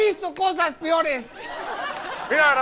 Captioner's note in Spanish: Risas